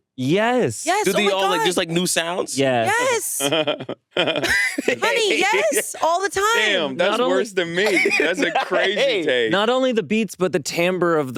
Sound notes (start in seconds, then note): 3.3 laughs; 3.4 Hasan laughs; 7.6 laughs